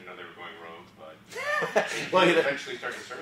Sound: laugh

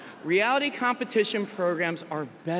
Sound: none

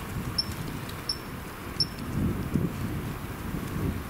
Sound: sensor beeping

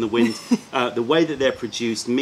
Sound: laughter

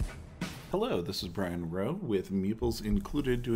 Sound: voiceover

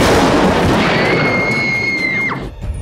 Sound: screaming

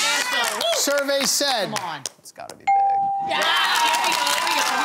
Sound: cheering

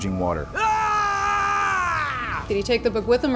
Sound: Captain Appleton yells

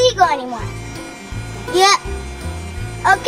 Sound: fan engine humming

